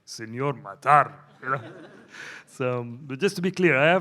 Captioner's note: audience laughs